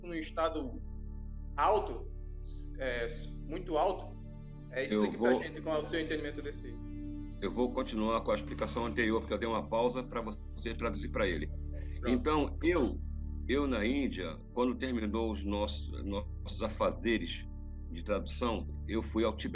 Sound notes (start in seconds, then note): 0.0 repeated in Portuguese